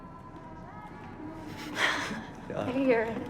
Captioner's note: chuckles